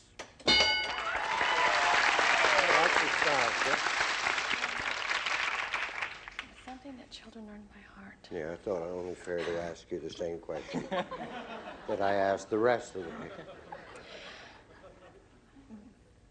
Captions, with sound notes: [ding] [applause] - Well, aren't you proud, Chris? - Something that children learn by heart. - Yeah, I thought it only fair to ask you the same question-- [laughter] --that I asked the rest of the people.